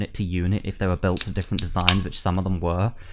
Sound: TASTY beer can opening noise

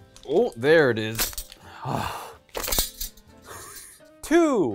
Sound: ring clanging

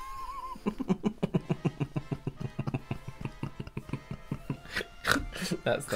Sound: laughter

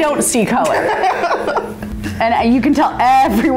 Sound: laughing

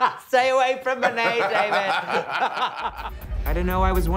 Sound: laughing

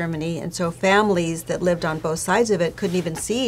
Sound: none

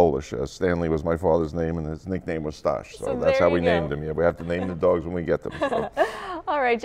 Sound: laughter

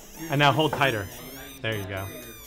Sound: circuit squeaks

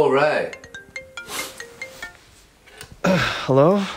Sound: phone ringing

